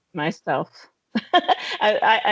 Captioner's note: laughing